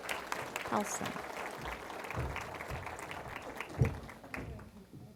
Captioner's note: applause